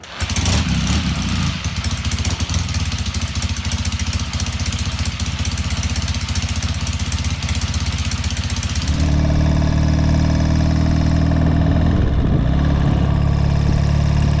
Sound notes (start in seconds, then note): 0.2 bike engine revving; 9.2 bike engine revving